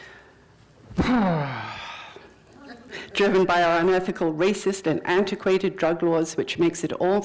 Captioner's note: sighs